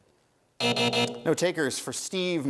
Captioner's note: buzzer sounds